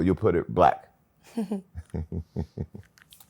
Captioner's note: laughter